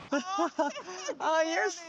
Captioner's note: laughter